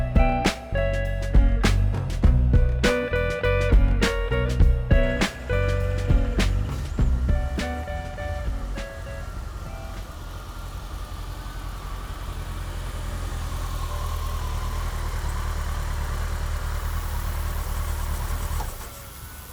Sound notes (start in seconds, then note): 7.7 motorcycle sounds